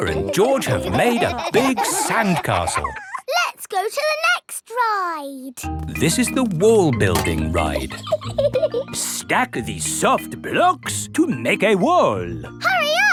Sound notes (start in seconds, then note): 0.0 laughing; 7.5 laughs